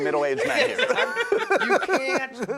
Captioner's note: laughing